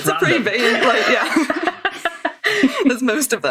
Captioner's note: laughing; laughs